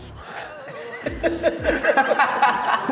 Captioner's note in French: rires